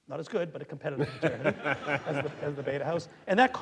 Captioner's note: audience laughing